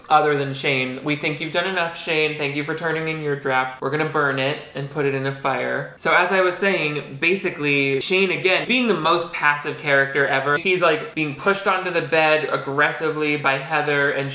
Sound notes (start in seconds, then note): none